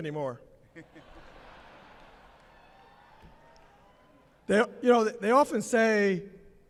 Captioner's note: laughter